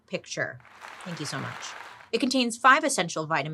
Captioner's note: audience applauding